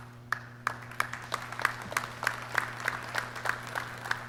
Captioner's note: clapping